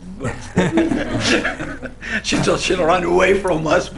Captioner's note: laughter